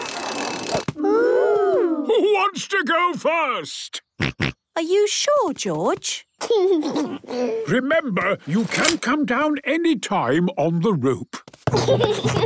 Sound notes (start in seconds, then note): 4.8 George snorts; 6.6 giggles